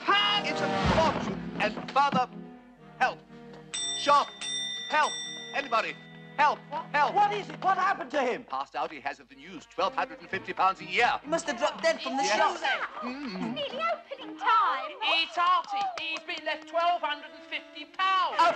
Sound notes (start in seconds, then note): 3.7 rings bell